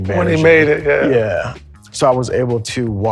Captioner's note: laughs